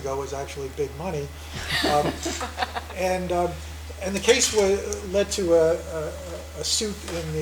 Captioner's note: laugh